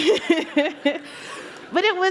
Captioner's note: laughter